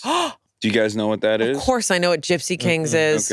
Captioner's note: gasps